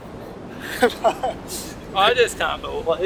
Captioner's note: laughing